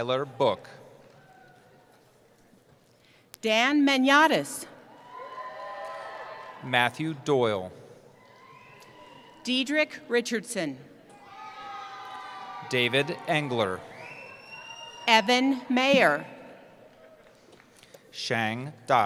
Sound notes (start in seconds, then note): 4.9 cheering; 11.1 cheering